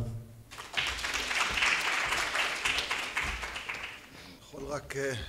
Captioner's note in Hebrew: מחיאות כפיים